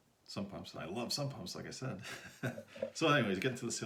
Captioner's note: laughs